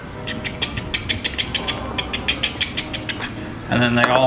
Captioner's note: imitating hammer pounding